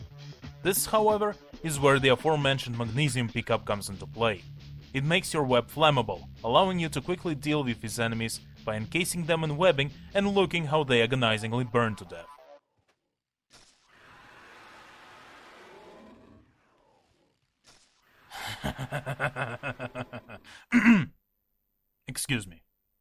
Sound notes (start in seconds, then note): 18.3 evil laugh; 20.5 ahem